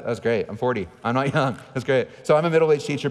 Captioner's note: laughing